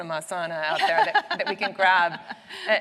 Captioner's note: laughs